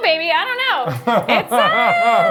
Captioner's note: laughs